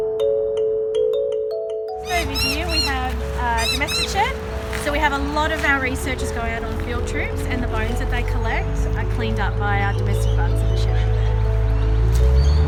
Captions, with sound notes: Over here, (bird chirping) we have our domestic shed. So we have a lot of our researchers going out on field trips, and the bones that they collect are cleaned up by our domestic birds in the shed over there.